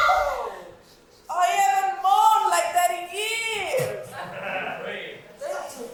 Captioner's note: audience laughs